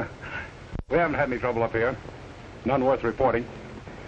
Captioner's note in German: lacht